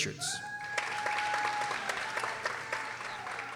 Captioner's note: people cheering